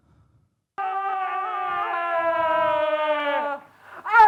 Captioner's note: screaming sound